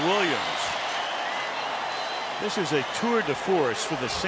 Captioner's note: cheering